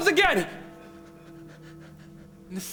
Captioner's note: bell tolls